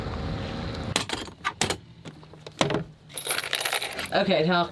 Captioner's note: engine running; parts clattering